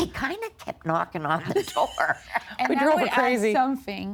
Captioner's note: laughing